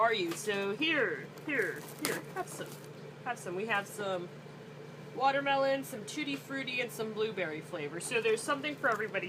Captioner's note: rips package